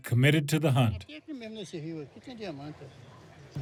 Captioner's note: speaking Portuguese